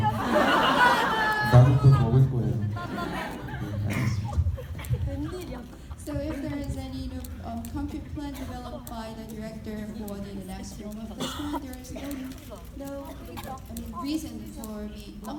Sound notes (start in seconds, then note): 0.1 speaking in foreign language; 10.7 faintly speaking